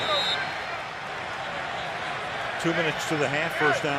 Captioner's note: chatter